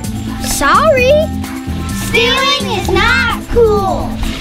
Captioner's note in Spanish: con sarcasmo